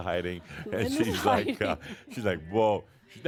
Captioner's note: chuckling